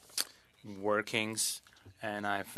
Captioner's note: speaking French